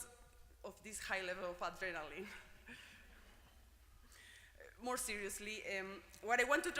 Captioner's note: laugh